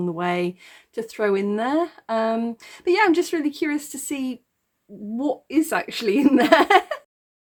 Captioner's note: laughing